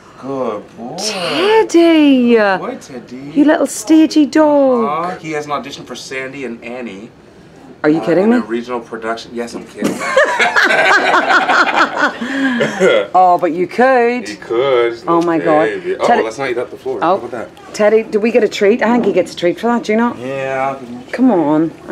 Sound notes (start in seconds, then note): 10.0 laughing